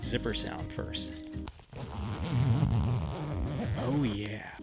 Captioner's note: sweet zipper sound